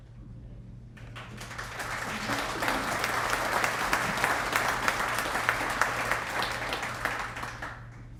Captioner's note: applause